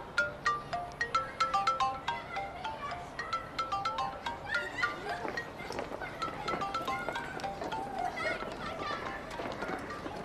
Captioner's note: mobile ringing